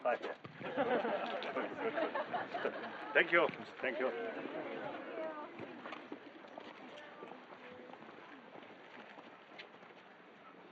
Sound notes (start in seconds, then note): 0.6 laughter